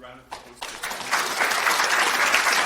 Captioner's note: applause